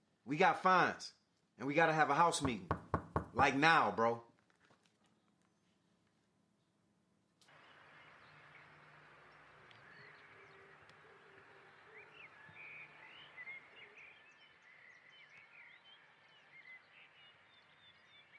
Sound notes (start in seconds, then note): 2.4 door knocks; 7.8 birds chirp